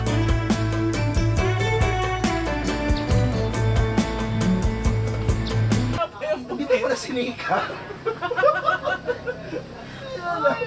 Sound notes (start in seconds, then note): 7.4 laughs